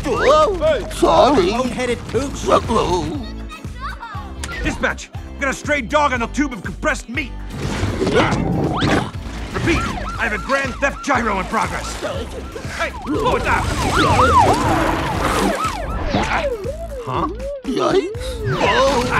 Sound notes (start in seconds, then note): 8.1 officer grunting; 13.8 siren sounding